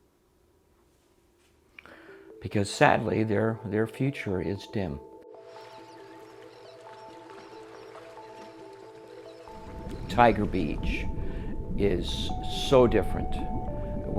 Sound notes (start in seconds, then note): 5.3 sea gulls squawking; 5.5 ethereal music